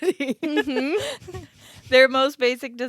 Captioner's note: giggling